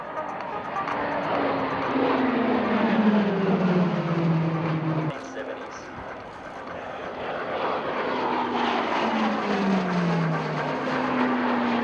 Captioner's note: PC21 aircraft sounds